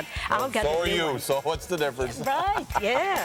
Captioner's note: laugh